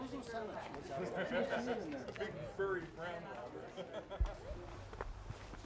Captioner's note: sounds of group talking